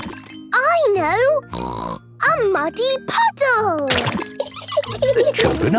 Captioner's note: laughing